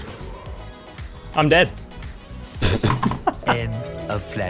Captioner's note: laughter